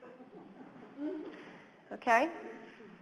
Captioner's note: audience chuckles